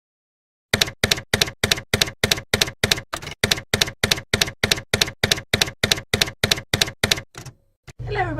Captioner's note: typewriter keys clacking